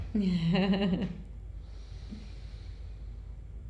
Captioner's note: chuckling